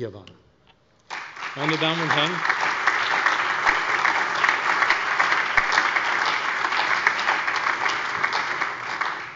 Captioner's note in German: Allgemeiner Beifall